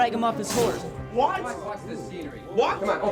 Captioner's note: spits